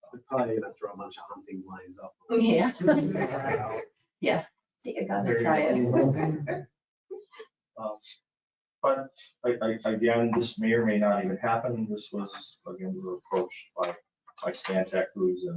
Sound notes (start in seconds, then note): 2.5 all laughing